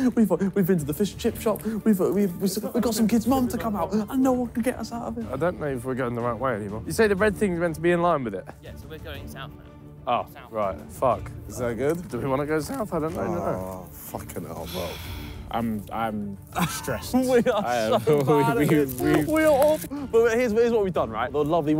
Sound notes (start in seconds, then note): 14.6 sighing; 16.5 laughing